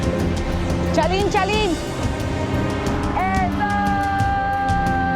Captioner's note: Spanish spoken audio